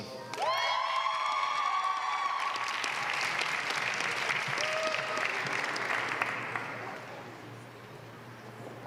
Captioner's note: applause